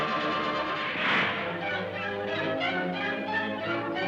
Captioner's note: whooshes